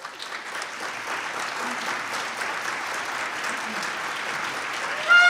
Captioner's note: applause